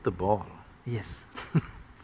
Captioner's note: laughs